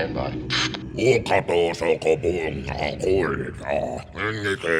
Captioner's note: speaking alien language